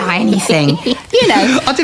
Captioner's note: laughter